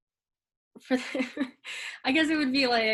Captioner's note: chuckles